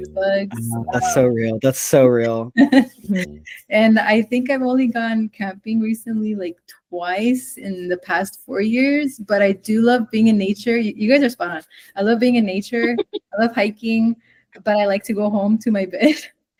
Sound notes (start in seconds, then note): 7.6 laughs; 8.7 said through tearful laughter